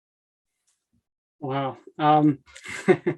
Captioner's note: chuckles